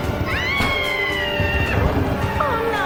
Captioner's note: Barbra screaming